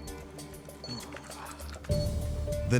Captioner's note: panting